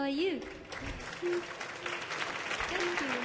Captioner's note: audience clapping